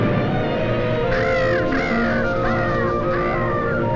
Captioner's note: bird cawing